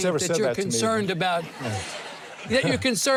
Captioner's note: audience laughs